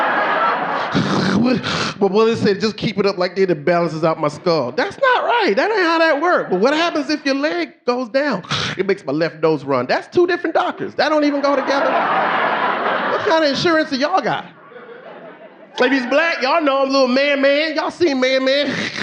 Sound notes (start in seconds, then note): 0.0 audience laughing; 0.9 snorts; 12.9 audience laughing; 15.5 audience laughing